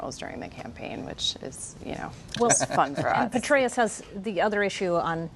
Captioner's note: laughter